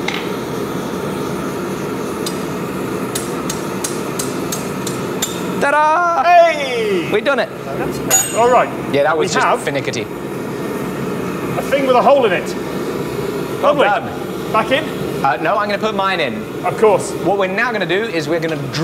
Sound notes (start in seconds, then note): 4.8 metal tapping